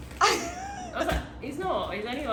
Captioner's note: laughing